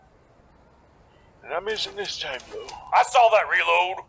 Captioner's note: reloading